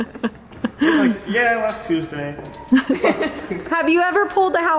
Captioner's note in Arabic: يضحك